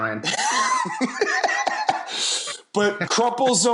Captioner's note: laughs